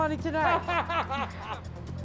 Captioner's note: man laughs